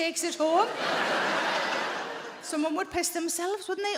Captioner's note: audience laughing